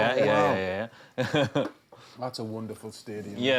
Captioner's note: laughs